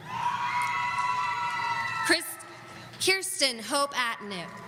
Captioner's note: audience cheering